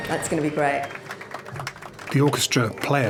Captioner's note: applause